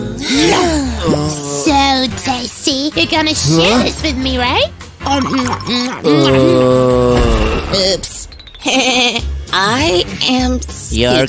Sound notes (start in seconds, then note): 5.1 sound of monstrous belching; 8.6 giggles